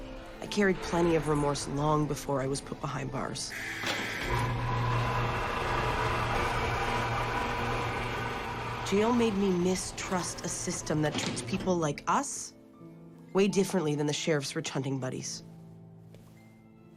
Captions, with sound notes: I carried d plenty of remorse long before I was put behind bars. [Door bubuzzer] [Mechanical whirring] Jail made me mistrust a system that treats people like us way differently than the Sheriff's rich huntining buddies.